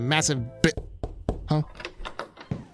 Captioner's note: knocking; door opens; footsteps